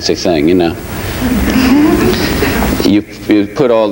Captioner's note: audience chuckles